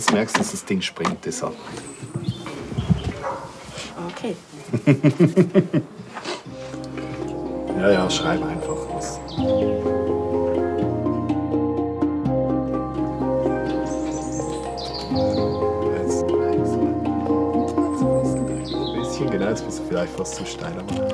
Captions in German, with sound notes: aber sobald du schreiben willst, merkst du, dass das Ding springt. Okay. (Er lacht leicht.) (Ruhige Musik) Jaja, schreib einfach. Ein bisschen, genau ...